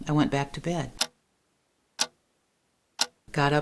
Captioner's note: ticking